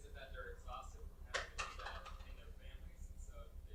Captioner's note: clattering